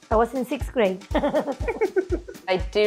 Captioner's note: giggling